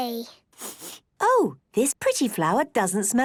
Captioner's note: sniffs